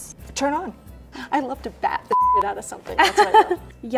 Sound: beeping

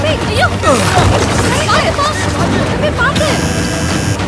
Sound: public chatter

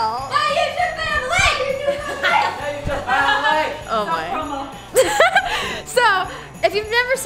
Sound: family members chattering and yelling

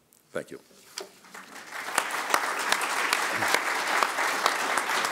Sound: applause

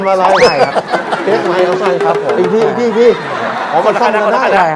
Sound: laughing sound

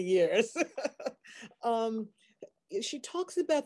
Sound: laughing

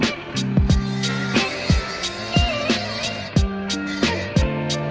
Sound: soft music; saw whirring

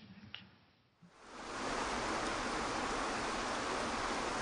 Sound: waterfall rushing

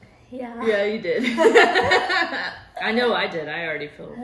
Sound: both laughing

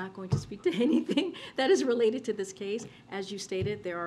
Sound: laughs

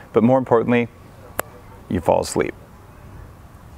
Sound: fingers snapping

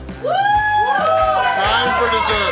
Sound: crowd cheers

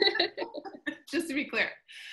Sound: laughter

